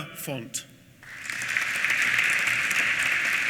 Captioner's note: applause